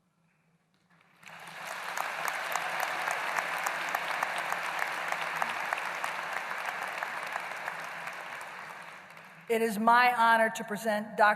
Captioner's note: applause